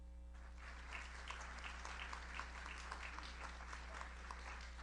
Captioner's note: audience applauds